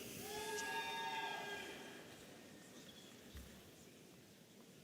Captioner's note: audience cheering